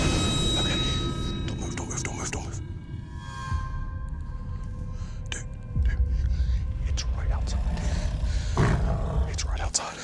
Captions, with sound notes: OK. Don't move. Don't move. Don't move. Don't move. Dude, it's right outside. [CREATURE GROWLING] It's right outside.